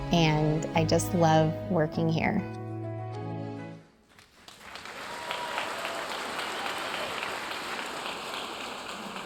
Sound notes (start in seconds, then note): 4.2 audience cheering and applauding